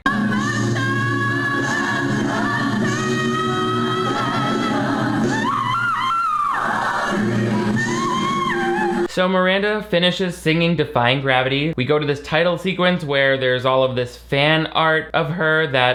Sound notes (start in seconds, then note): 0.0 choir sings indistinctly; 5.3 voice cracks